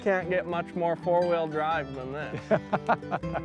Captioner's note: laughter